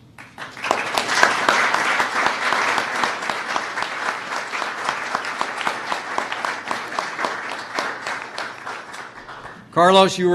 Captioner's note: applause